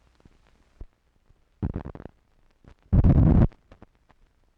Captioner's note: static crackling